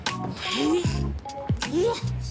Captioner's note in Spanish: Gruñido